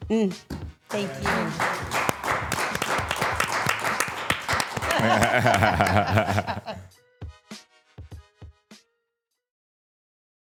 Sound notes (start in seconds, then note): 0.8 crew applauding; 5.1 all laughing; 7.7 smooth upbeat music